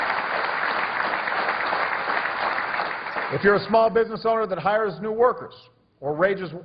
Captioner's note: applause